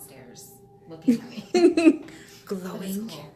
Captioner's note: laughing